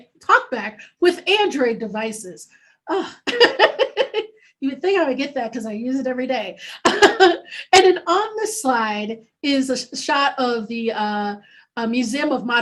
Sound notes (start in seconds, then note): 3.2 laughing